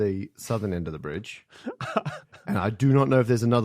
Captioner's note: chuckles